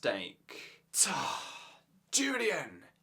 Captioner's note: sighing